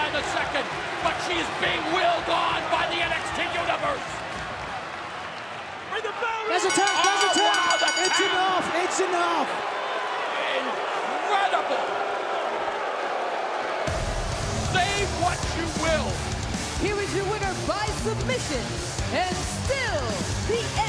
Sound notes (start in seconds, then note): 8.0 bell ringing; 16.1 crowd cheering